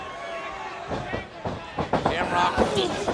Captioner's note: crowd shouting